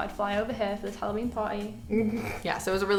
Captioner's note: laughing